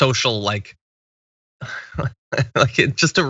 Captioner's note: laugh